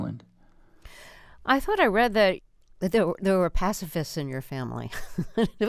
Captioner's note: laughter